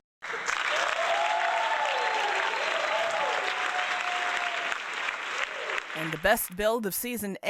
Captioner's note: applause